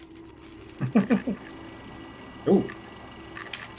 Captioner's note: chuckles